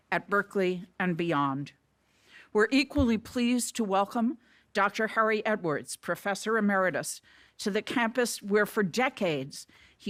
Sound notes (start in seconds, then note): none